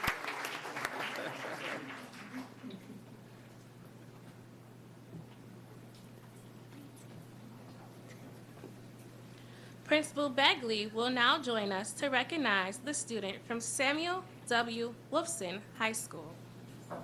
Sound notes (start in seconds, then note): 1.9 applause